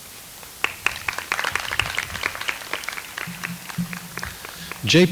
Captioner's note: audience applauds